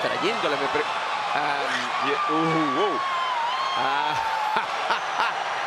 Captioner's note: laugh